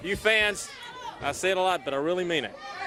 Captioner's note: crowd chatter